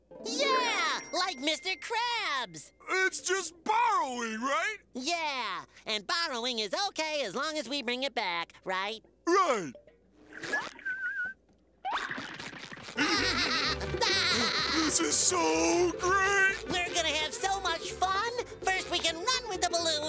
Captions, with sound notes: Yeah, like Mr. Krabs. It's just borrowing, right? Yeah, and borrowing is okay as long as we bring it back. - Right? - Right. [whistling] [laughing] This is so great. We're gonna have so much fun. First, we can run with the balloon.